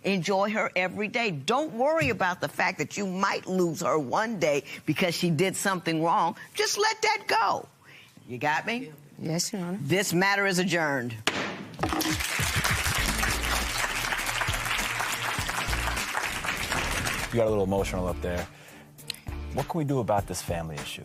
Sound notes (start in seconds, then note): 11.3 gavel bangs; 11.8 applause